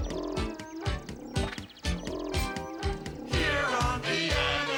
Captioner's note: animal noises